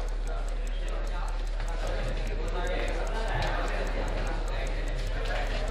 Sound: students making noise

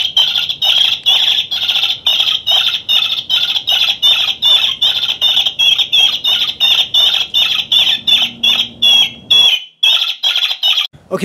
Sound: distress rabbit call

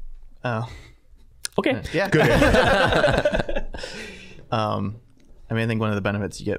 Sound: all laughing

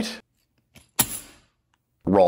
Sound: thud

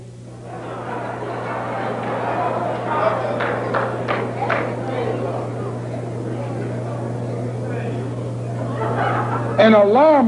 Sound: laughter

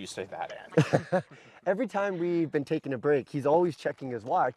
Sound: laughs

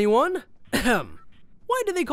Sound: clears throat

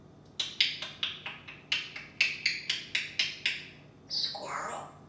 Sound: bird beak clicking

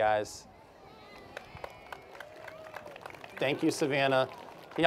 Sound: applause

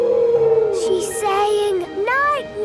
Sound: whale calling

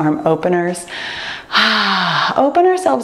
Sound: sighs

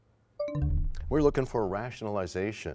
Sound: bell chimes, time expires

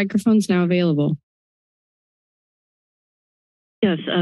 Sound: silence

